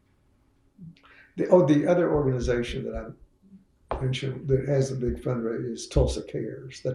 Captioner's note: laughs